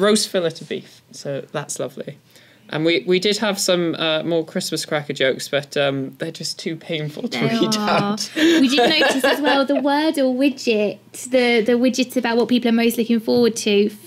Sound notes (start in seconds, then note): 8.3 laugh